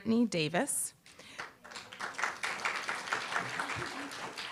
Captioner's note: applause